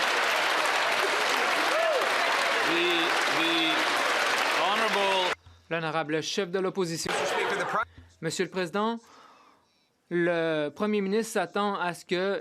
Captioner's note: some Applause